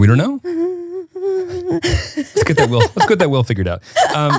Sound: laughing

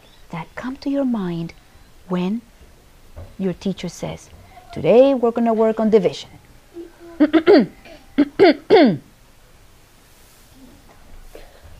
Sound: clears throat

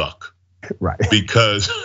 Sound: laugh

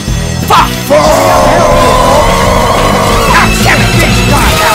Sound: battle cry that vaguely sounds like fuck

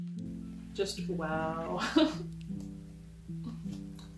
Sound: laughs

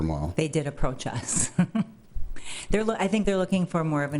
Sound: laughs

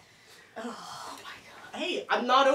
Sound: Oren gasps

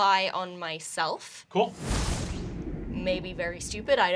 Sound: ominous crashing

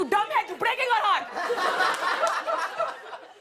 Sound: laughter

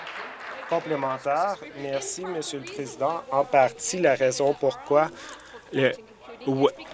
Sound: applause

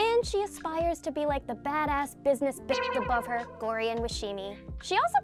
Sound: beep

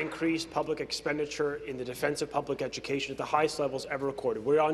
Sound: applause

